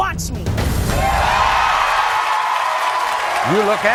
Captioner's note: audience cheering